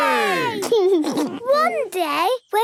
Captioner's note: laughs